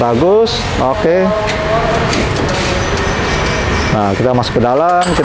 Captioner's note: closing oven door